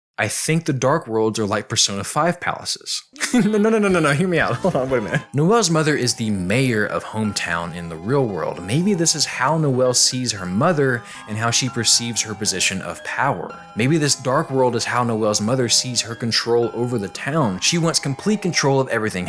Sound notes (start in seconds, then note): 3.1 laughing, nonono hear me out!